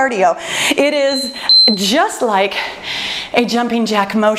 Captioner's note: timer beeps